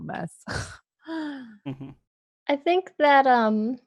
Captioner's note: laughs